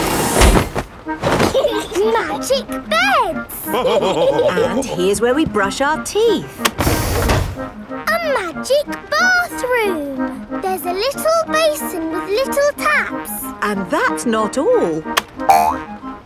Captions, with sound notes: (LAUGHING) Magic beds! (ALL LAUGHING) And here's where we brush our teeth! A magic bathroom! There's a little basin with little taps! And that's not all!